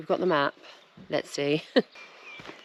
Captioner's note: giggle